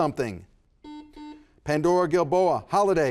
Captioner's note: buzzer buzzes